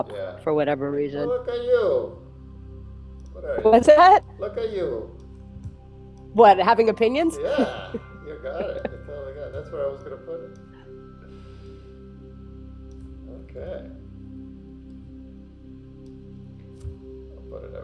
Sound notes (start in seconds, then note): 8.4 laughs; 14.6 gentle music